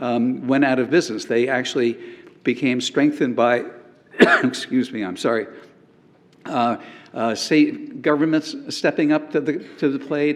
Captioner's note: cough